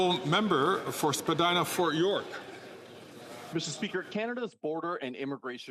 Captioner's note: some Applause